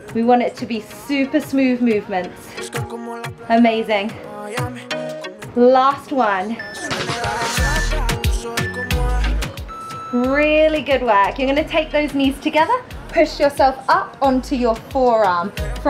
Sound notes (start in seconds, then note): 6.4 alarm beeping